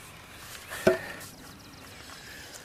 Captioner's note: heavy breathing